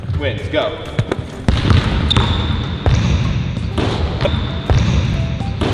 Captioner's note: basketballs dribbling